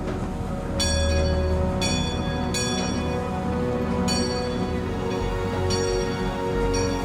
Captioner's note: bell ringing